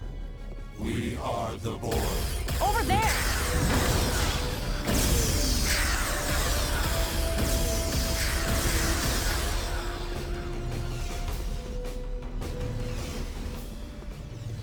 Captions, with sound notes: We are the Borg. Over there! (explosion) (tense music)